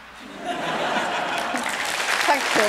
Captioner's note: laughter